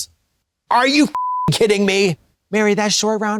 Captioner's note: beep